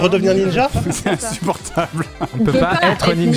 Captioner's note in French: en riant